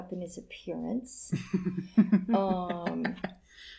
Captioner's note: laughter